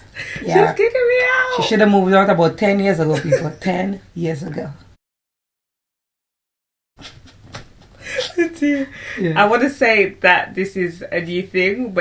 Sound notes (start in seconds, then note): 8.0 laughter